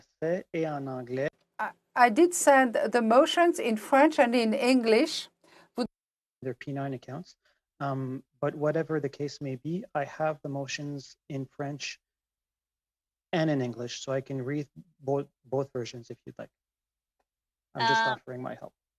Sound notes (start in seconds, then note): 4.3 speaking French